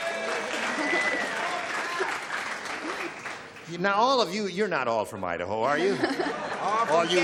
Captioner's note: applause